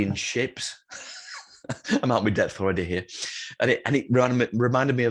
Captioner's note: laughs